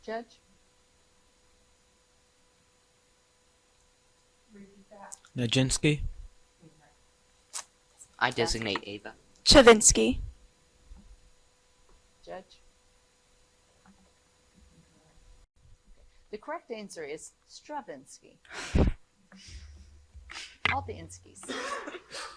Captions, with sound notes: - Judge? - Can you repeat that? - Najinski. - I designate Ava. - Chavinsky. - Judge? The correct answer is Stravinsky. (student chuckling) - All the inski's.